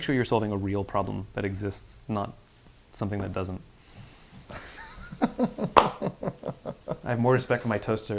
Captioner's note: laughs